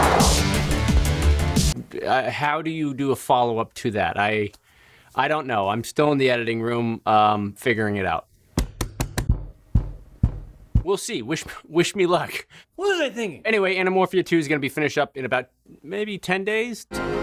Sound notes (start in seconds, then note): 8.6 loud tapping sound; 16.9 upbeat music